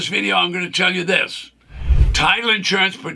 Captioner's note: screen whooshes